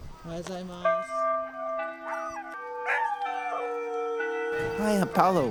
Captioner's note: school chime